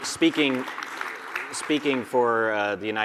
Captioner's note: audience applauding